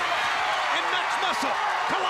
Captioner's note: crowd cheering